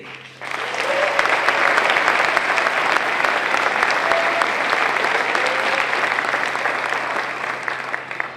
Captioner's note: applause